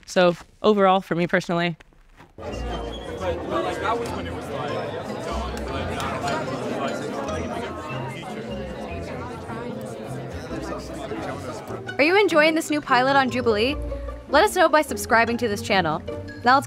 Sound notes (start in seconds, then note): 2.6 crowd chattering; 2.6 upbeat music